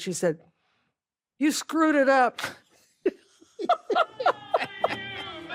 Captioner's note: laughs; ben laughs